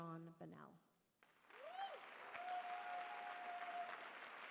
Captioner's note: cheering